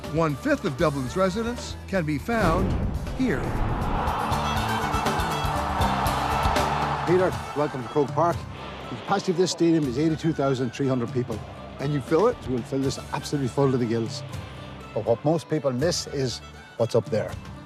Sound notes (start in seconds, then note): 3.7 cheers